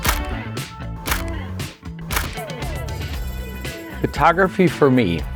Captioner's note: camera clicks